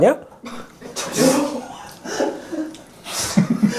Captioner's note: sighs heard here and there